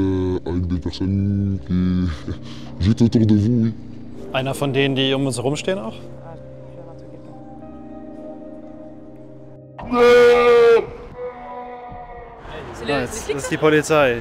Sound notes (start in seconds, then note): 8.3 slow music; 9.8 scream